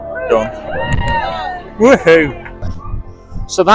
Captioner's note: cheering